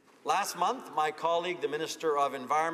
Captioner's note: speaking French